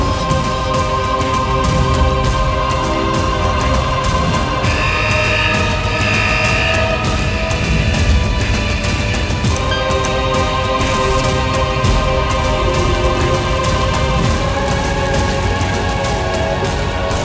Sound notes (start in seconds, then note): 0.1 dramatic atmosphere music; 4.6 alarm blaring